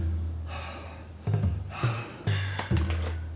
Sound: heavy breathing

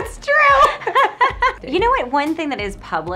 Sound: laughs

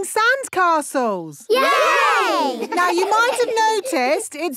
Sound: laughing

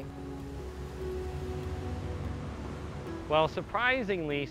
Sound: car engines humming

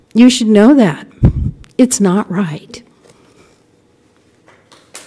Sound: applause

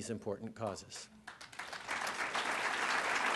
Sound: applause

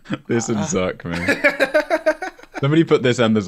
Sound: laughter

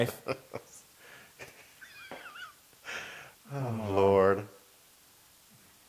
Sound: laugh

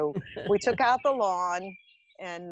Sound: laughing

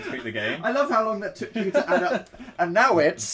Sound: laughs

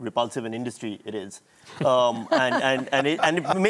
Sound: laughter

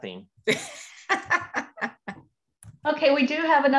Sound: laughing

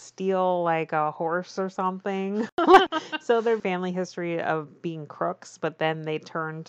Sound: laughs

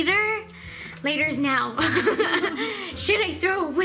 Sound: laughs

